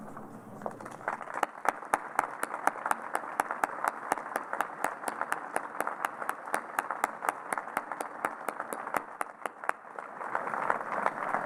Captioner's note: applause